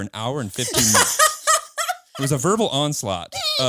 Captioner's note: all laughing